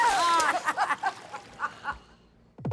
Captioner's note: laughter